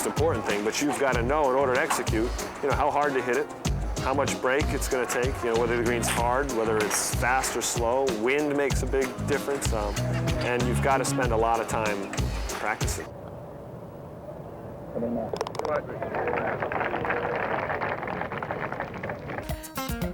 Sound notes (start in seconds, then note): 15.0 murmuring; 15.8 applause